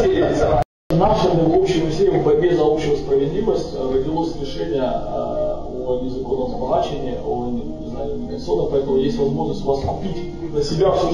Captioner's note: laughs